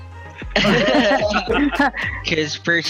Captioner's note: band laughing